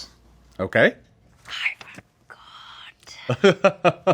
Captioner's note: whispers; laughs